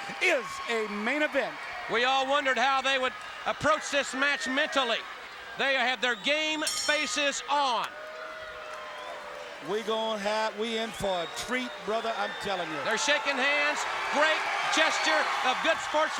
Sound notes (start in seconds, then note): 6.6 bell ringing; 14.9 crowd cheering